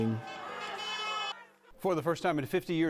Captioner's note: cars honking